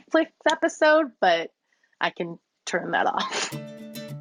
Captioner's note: laughs; upbeat music